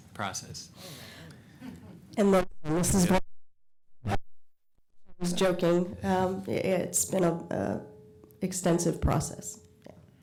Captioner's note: audio cutting out